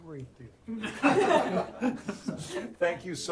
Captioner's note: laughter